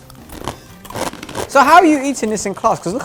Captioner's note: crunch